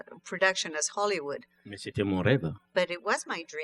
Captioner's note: speaking french